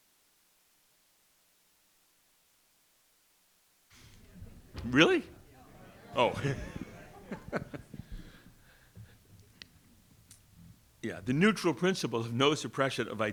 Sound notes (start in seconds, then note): 6.7 laughing